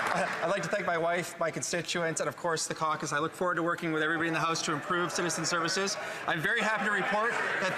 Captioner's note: some Applause